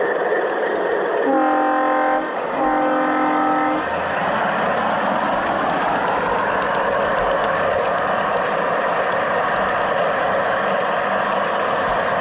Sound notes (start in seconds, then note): 0.9 train horn